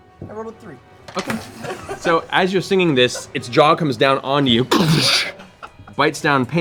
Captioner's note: slamming sound